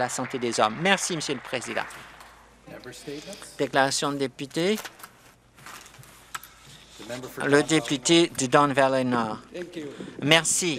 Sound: some Applause

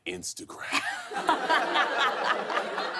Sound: laughter

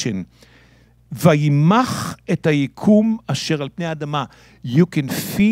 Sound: speaking in Hebrew

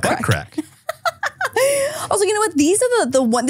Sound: laughing

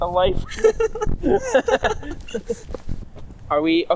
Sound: both laughing

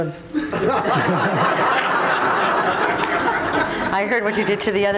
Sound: crowd laughs

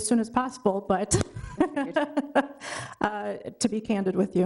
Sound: chuckles

